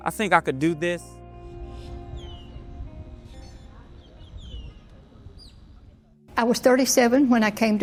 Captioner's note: dramatic music; birds chirping